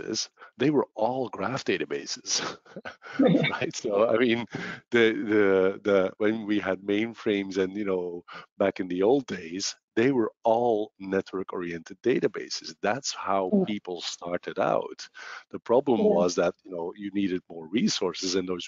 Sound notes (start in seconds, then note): 2.8 laughs